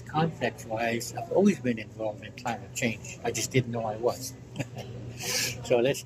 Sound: laughs

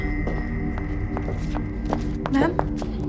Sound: footsteps

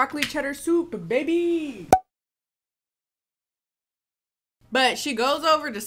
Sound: graphic popping

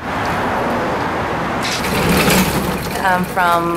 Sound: traffic roaring

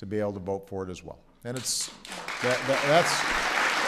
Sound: applause

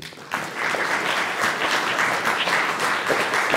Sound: applause

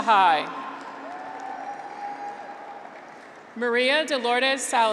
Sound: graduates cheer

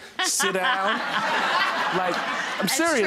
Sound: audience laughing

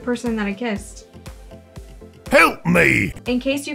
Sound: ogre voice

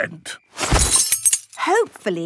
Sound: clang-ruffle-thump

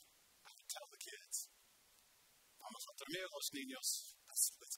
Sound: speaking spanish

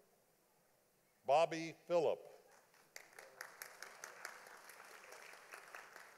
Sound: audience applauding

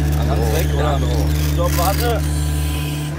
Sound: snippets of conversation

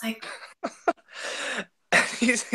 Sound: laughing

